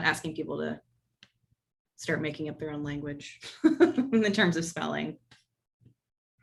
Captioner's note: laugh